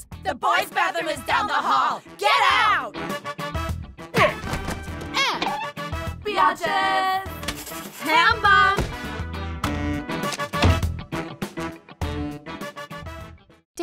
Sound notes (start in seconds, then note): 4.0 groans; 10.4 door closing